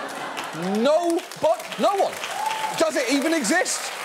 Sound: audience applauding

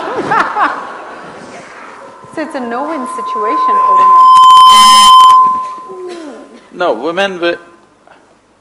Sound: laughter; audio disturbance

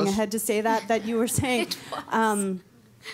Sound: laughter

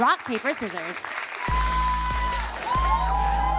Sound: audience cheering

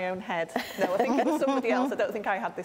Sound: both laughing

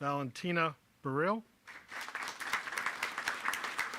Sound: applause

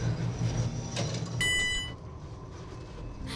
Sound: elevator chimes

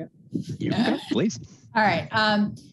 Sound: chuckles

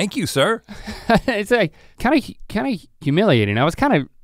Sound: chuckles

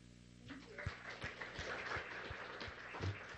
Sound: applause

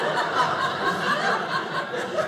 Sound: audience laughing

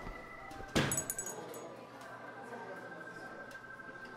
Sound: bell clinking

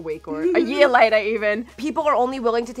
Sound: giggles

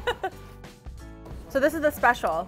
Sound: laughs

